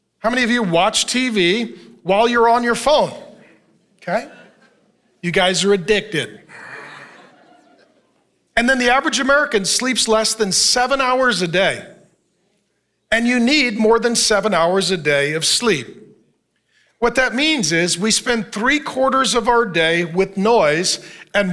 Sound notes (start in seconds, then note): 6.3 congregation laughing